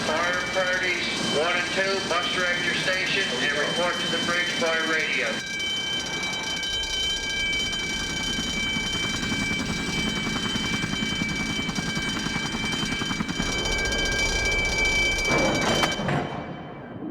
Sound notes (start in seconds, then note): 5.8 bell ringing; 7.9 helicopter blades thumping; 15.5 metal thumping